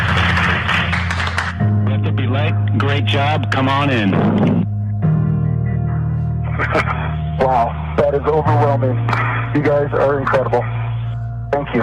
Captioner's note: applause